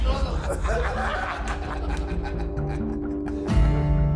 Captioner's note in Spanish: Risas